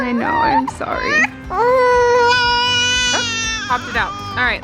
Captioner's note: baby crying